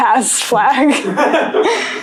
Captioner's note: laughter